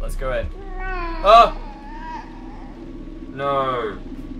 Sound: laughs; baby crying; yelps

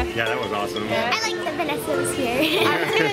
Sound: laughs

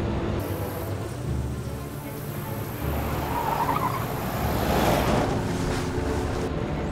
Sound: boat engine ticks over; horn blows

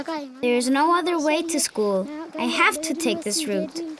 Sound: birds chirping

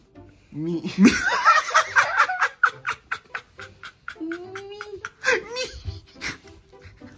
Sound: laughs

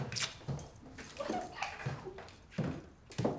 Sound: giggle

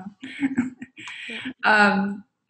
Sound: laughs

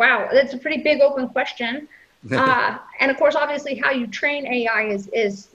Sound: chuckles

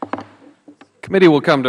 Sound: gavel

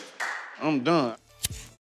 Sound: lighter clicks

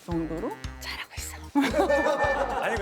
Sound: wispering

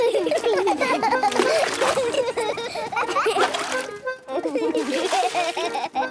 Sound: excited laughter

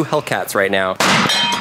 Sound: seat exploding

